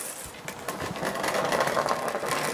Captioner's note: rattling